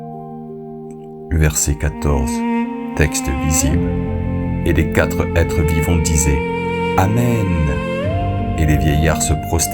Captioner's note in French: chant